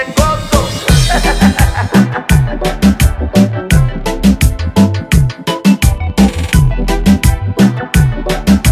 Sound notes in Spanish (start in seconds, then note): 6.4 risas